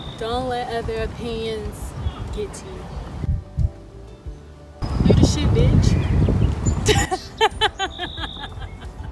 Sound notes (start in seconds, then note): 6.8 laughs